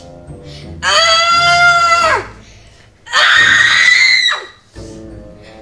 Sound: screaming with effort

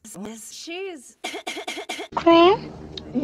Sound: persistent coughing

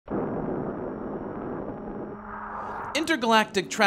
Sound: flying saucer whooshes

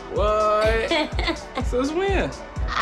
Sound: Jemma laughing

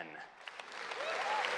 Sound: applause

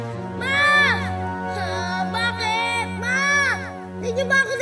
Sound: whines

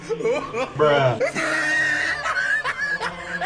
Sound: loud wheezing laughter

